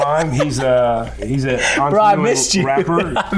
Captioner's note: laughing